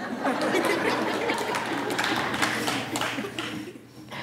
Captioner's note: laughing